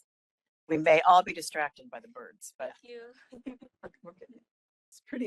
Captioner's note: laugh